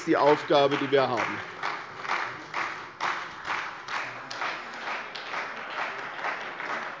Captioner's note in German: Beifall bei der CDU und dem BÜNDNIS 90/DIE GRÜNEN